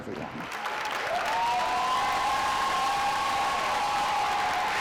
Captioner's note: audience applause